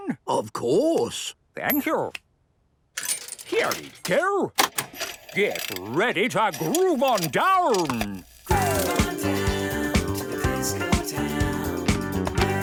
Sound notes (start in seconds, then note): 4.6 clicks, whirring; 8.4 disco music plays